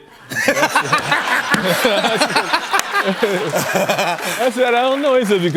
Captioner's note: laughter